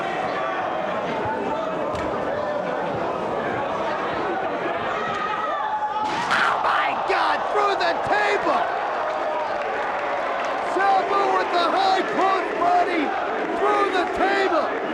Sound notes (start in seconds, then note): 8.8 spectators cheering and applauding